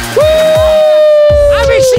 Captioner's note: screaming